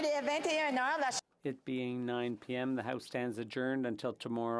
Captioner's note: crowd Noise; speaking French